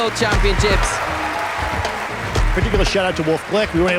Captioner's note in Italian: folla applaude